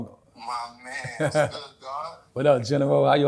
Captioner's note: on phone